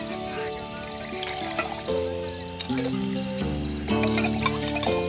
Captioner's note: water splashes; spoon clinks